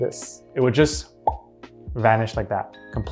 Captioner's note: vocalizing popping